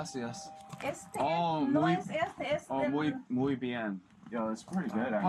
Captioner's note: speaking Spanish